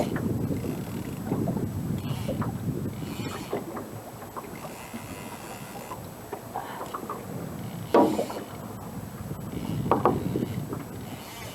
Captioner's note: water sounds